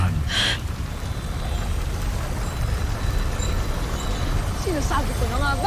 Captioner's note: reverberating chimes, spellbinding whoosh